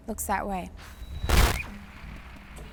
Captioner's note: static